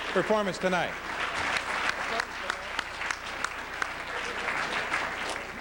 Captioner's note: applause